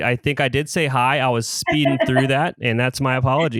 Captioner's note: laughs